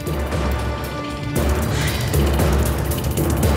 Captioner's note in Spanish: Suspiros